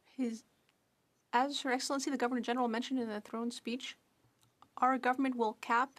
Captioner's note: speaking French